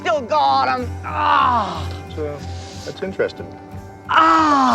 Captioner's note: groaning